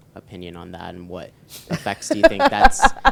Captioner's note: laughing